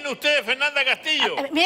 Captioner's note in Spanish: risas